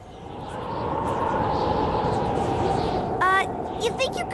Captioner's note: whistling wind